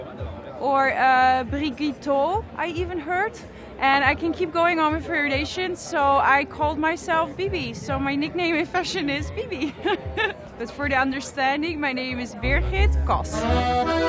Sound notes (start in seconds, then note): 9.5 laughs